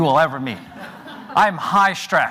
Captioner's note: audience laughs